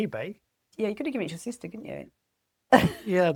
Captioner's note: laughs